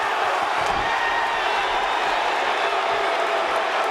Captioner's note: audience booing